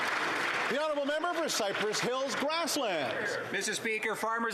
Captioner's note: applause